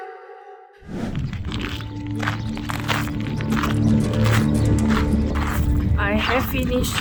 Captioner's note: sound of walking on the sand